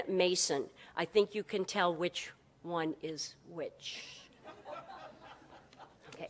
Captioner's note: brief laughter